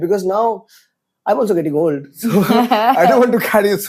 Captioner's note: laughs